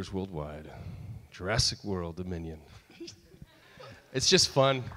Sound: audience laughs

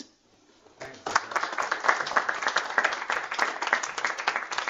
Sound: applause

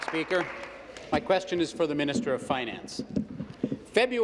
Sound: applause

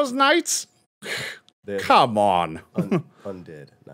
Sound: scoffs

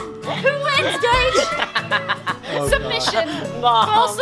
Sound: laughing

